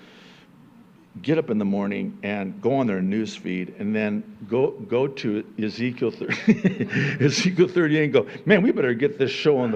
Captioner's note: chuckling